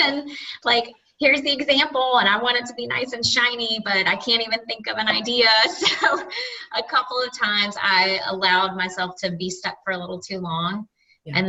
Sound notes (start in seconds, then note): 5.7 laughing